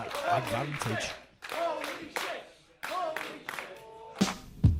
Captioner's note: crowd